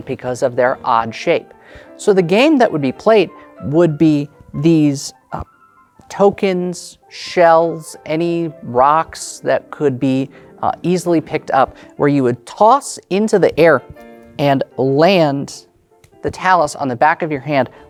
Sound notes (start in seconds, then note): none